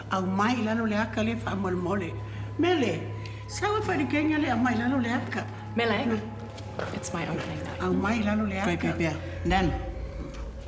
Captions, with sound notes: - Mele. It's my opening night. - (SPEAKS SAMOAN)